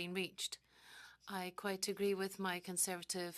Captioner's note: speaking French